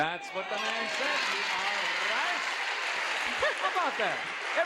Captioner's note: audience cheers